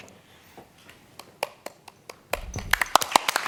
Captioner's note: applause